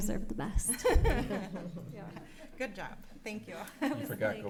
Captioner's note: laughs